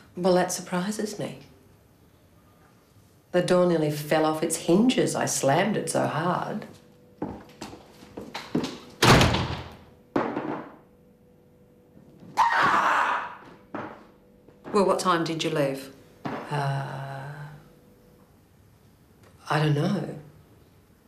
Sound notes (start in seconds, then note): 12.4 yelling